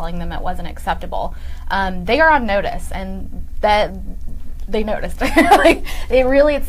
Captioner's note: laughing